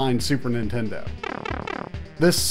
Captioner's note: Super Mario shrinking sound